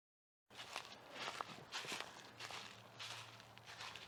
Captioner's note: foot steps